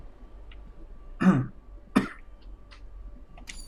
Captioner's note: coughs